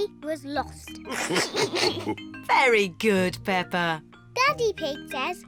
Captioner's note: all laugh